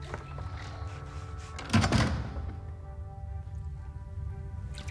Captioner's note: door closes